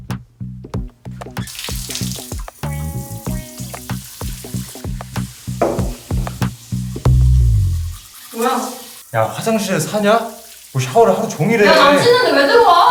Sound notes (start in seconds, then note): 1.2 sound of the shower running; 5.6 door opening sound; 7.0 teeth brushing sound